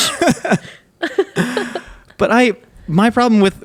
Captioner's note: both laughing